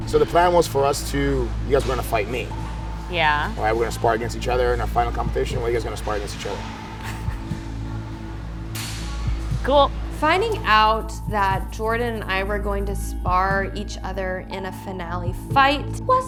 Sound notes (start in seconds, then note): 7.0 laughing